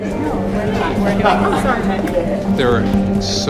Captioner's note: laughs